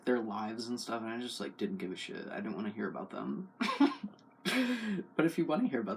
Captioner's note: laugh